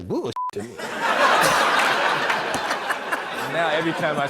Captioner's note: laughter